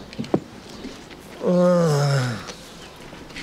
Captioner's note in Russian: стонет